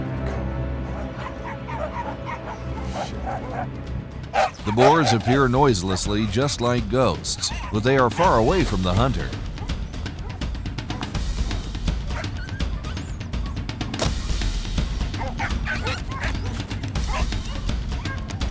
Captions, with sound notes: - They come. The boars appear noiselessly just like ghosts, but they are far away from the hunter. [intense music] [dogs barking] [arrow flying] [dogs barking] [dramatic music]